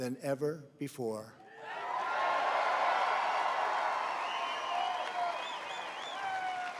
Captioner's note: applause